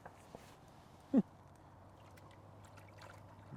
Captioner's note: chuckling